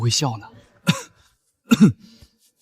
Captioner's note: cough cough